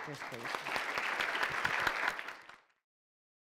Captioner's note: all clapping